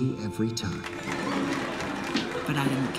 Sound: applause

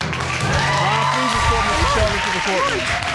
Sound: audience cheering

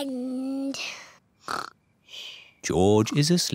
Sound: snores

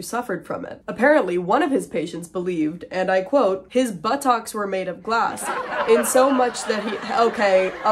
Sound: laughter in the background

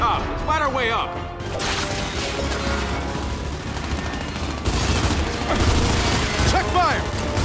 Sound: gunfire

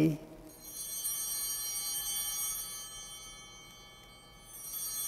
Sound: bell ringing

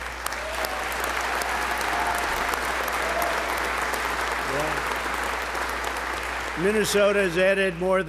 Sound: applause

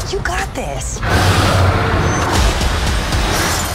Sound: roars

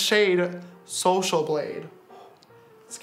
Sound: breathes out

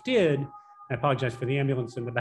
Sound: siren blaring

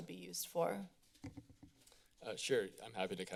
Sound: paper rusling sound

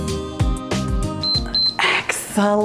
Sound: timer beeps

